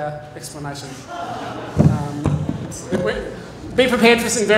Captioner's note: laughter